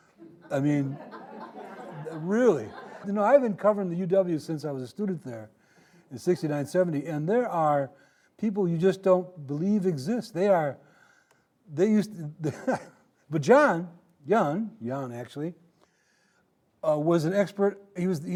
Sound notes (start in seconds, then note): 0.1 audience laughing; 12.4 laughing